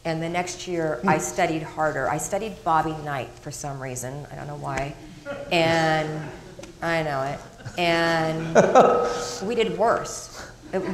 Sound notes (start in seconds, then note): 7.3 crowd laughing